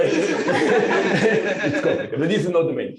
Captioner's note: laughing